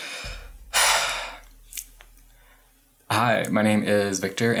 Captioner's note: breathes out heavily